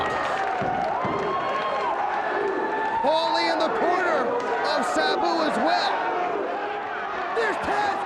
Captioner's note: applause